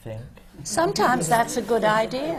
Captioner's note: laughter